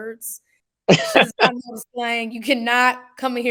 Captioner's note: laughing